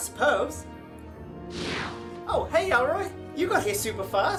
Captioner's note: whoosh SFX